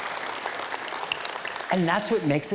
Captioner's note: applause